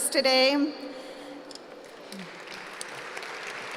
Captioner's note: applause